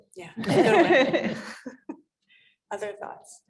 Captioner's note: all chuckling